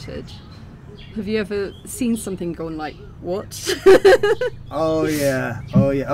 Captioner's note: laughing